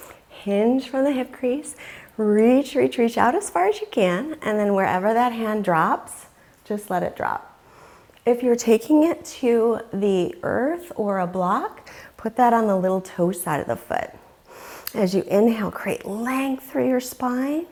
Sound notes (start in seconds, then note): 12.6 deeply inhaling